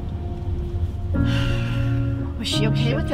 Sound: sigh

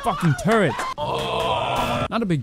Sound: groaning

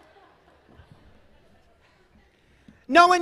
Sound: laughter

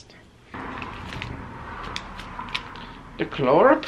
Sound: plastic crinkling

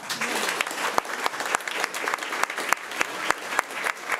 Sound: crowd clapping

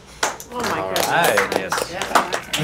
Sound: clapping

